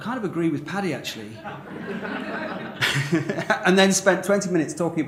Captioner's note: laughter